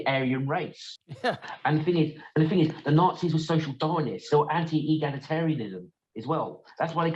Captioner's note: laugh